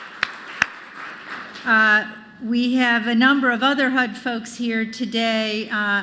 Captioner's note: applause